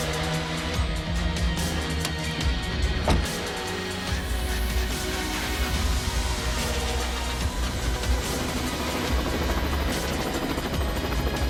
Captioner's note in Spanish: Sonido de rotor